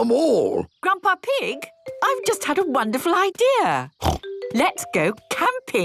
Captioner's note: snort